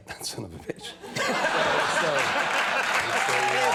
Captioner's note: laughing